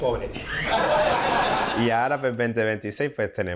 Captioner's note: Risas